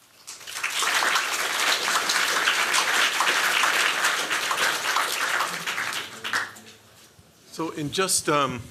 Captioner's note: applause